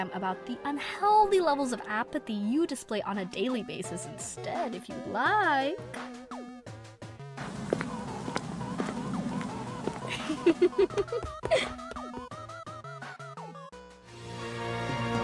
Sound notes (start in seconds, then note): 7.4 footsteps; 10.1 Feferi giggles, followed by lighter footsteps